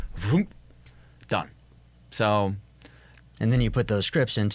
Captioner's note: imitates whoosh